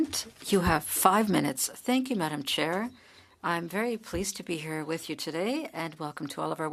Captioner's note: speaking French